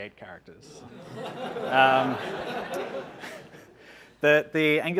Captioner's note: audience laughing